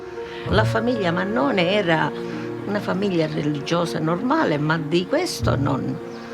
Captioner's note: speaks in foreign language